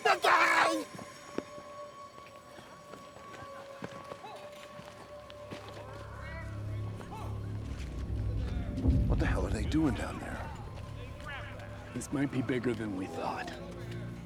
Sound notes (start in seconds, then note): 2.4 eerie music continues; 6.4 people shouting